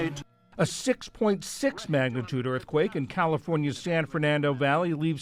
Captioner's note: voice-over